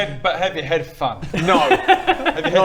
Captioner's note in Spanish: se ríe, fuerte